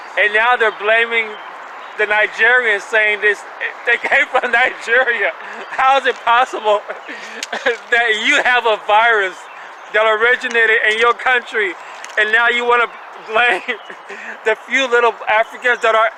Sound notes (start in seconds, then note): 3.2 laughing